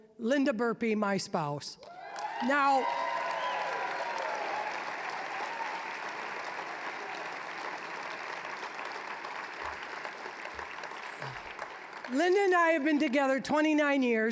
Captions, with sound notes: Linda Burpee, my spouse. (applause, cheering) Now... (applause, cheering) (applause) Linda and I have been together 29 years,